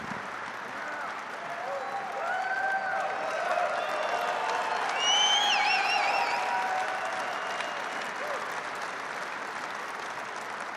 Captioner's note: applause